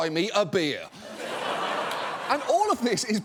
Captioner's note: audience laughing